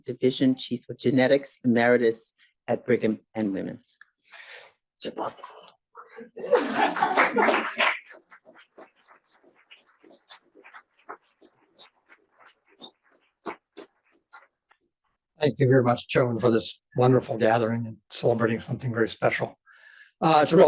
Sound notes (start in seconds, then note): 6.6 audience applauds